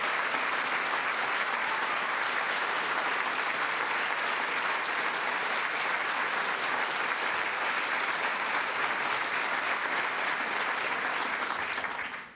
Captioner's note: applause